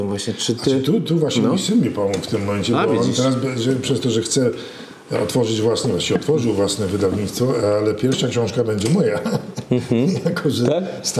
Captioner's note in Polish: śmiech